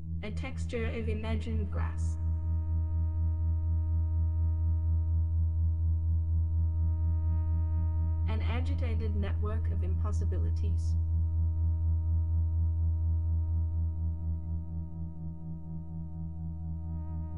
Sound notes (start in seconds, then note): 3.1 electronic humming; 10.8 electronic humming